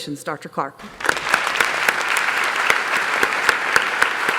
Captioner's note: applause